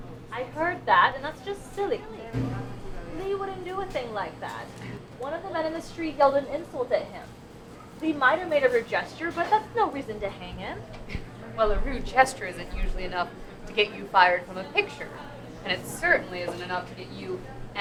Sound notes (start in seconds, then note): none